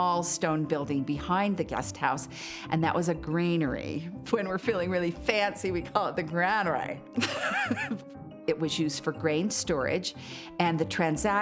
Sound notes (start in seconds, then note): 7.2 laughs